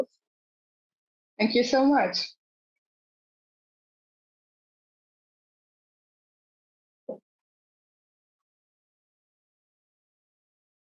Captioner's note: pause